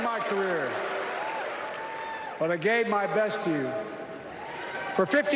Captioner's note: cheers and applause